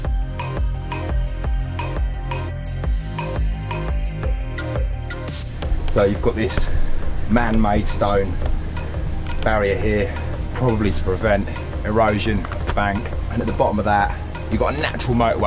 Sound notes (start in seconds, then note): none